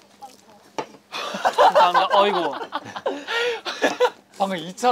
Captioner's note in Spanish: Jajaja